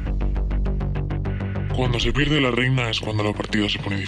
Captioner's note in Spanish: voz distorsionada